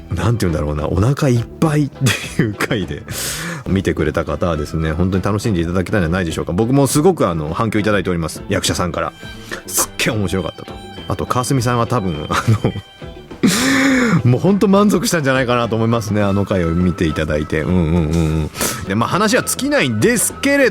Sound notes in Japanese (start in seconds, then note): 13.3 笑い; 13.4 息をのむ音; 19.4 鼻息